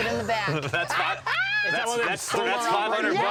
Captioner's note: laughter